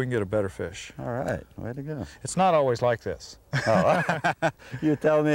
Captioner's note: laughter